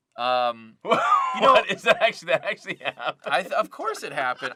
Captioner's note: laughing